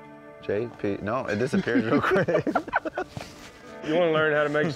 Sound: laughter

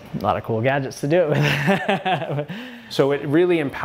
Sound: laughs

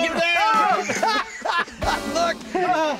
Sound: laughing

